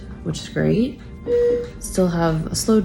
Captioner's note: machine beeping